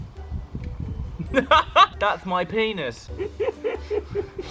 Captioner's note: pat pat; laugh; laugh at said laugh noises; laugh noises